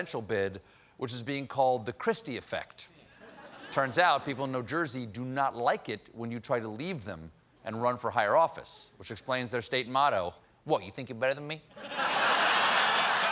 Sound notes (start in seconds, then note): 10.2 applause; 10.2 laughter